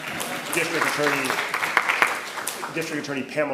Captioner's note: attendees clapping